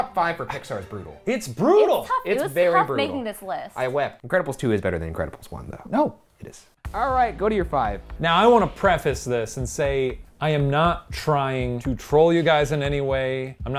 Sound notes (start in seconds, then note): none